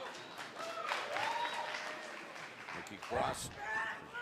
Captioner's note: cheers and applause